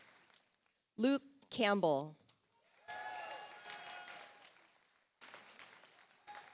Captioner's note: audience applauds